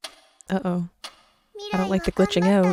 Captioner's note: clock ticking